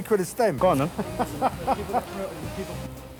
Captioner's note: laughs